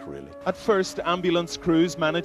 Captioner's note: voiceover